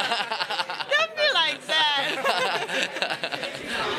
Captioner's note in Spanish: risas